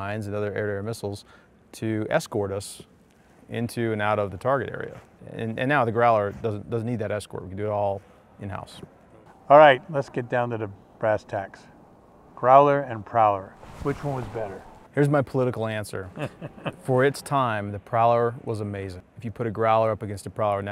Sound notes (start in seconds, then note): 16.1 chuckles